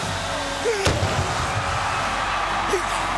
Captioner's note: Goldberg yells; fireworks popping; Goldberg vocalizing; crowd cheering